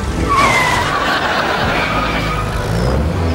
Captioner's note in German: Bremsen kreischen